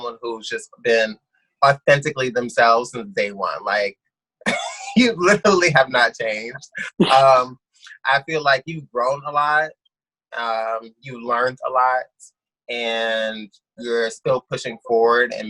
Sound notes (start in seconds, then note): 4.5 laughs; 6.4 laughs